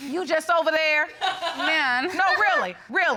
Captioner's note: laughs